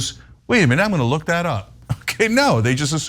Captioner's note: laugh